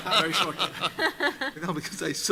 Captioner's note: laughter